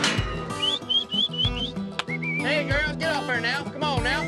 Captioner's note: whistling